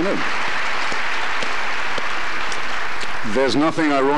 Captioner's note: applause continues